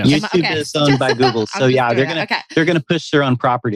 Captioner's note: laughs